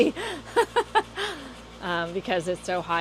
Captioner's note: laughs